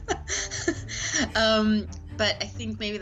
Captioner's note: laughs